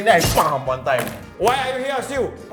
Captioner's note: bam